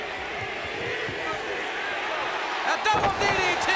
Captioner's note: crowd cheering